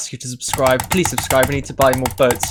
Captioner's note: click x10; click x11; click x9; click x12; click x2; click x6; click x7; click x8; click x5; click; click x3; click x4